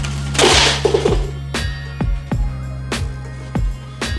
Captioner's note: crashing